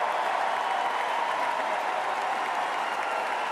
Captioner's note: cheers and Applause